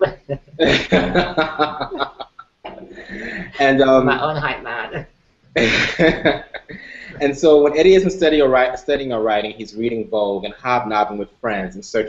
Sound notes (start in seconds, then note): 5.6 laughter